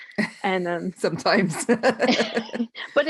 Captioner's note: laughing